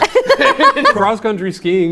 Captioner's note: laughing loudly